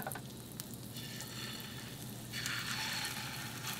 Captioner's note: sizzling